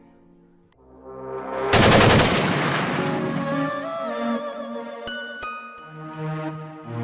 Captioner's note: melancholic music continues; dramatic music; gun shoots